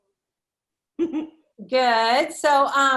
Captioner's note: laughs